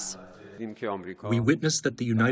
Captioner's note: through translator